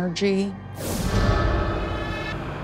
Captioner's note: whoosh; eerie music